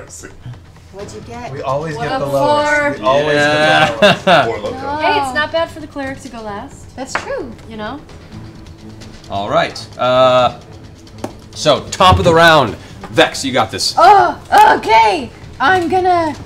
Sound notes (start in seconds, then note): 3.7 laughs